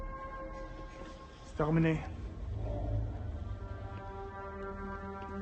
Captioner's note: thug speaking French